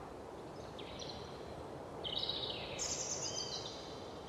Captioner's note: birds softly chirping